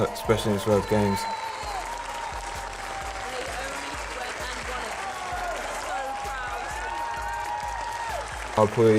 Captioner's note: cheering